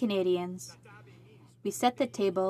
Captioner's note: speaking in french